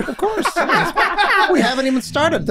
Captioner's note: group laughing